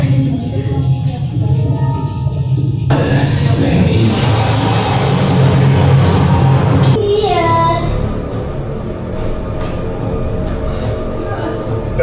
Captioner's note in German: schreien